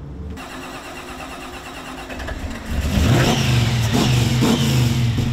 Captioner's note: engine turning over